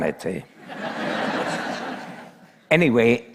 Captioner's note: laughter